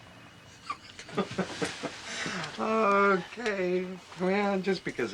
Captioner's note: chuckles